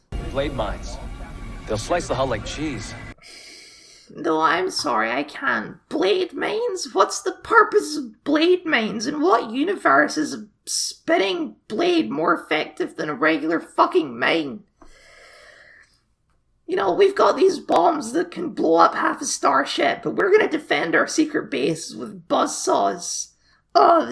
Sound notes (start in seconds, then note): 3.2 sigh; 14.8 sigh